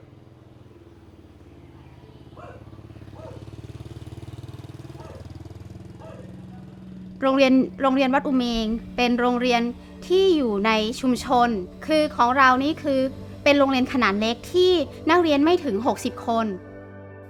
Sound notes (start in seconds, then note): 3.0 dog barking; 7.3 woman speaking Thai